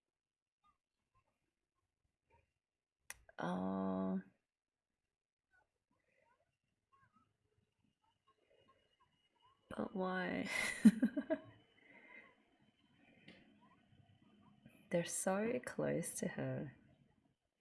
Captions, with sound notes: Oh... But why? [laughs] They're so close to her.